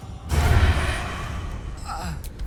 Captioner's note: magic whooshing; character grunts